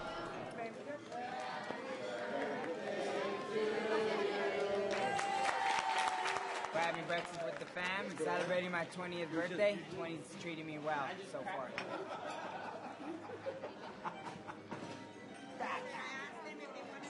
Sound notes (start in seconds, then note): 4.6 cheering, applause; 12.0 laughing